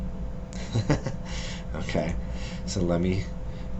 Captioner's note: laughs